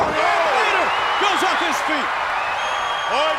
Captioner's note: audience cheers